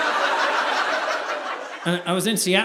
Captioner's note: audience laughing